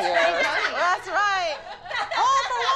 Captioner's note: laughter